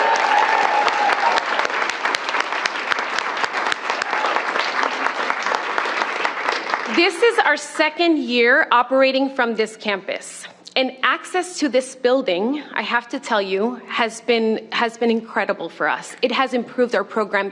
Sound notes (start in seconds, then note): 6.1 cheers and applause